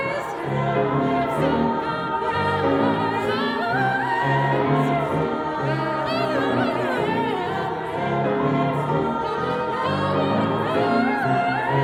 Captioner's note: ad libs continue